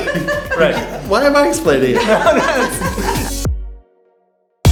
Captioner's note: laughing